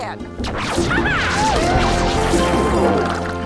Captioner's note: zapping